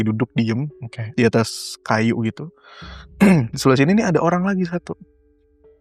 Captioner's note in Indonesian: berdehem